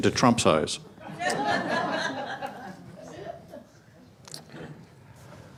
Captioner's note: audience laughs loudly